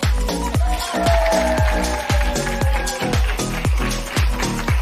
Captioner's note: cheering, applause